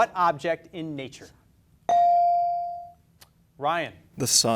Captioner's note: beep